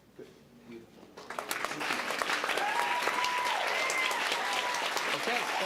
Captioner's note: applause, cheering